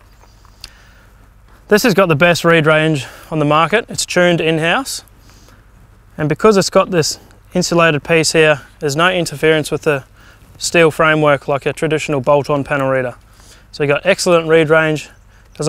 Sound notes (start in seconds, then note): none